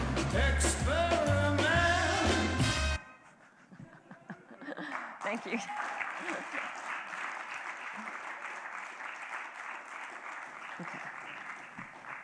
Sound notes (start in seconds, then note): 3.0 laughs; 6.6 applause